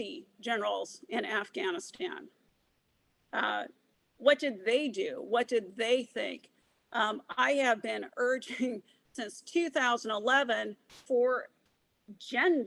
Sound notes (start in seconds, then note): none